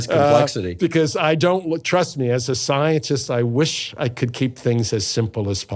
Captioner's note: laughs